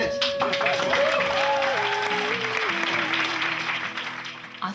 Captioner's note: audience applauding